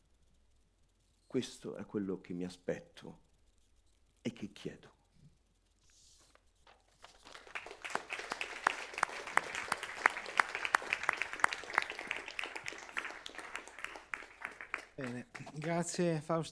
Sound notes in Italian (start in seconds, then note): 4.5 Applauso